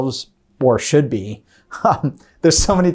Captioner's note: laughs